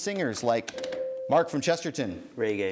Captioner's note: ding